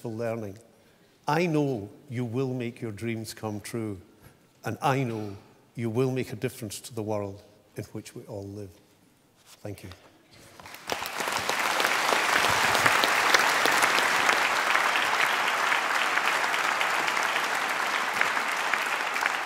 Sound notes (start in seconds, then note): 10.5 applause